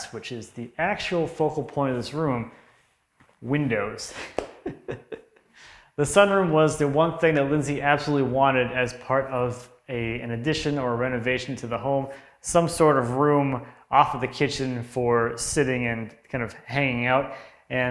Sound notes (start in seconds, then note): 4.6 laughs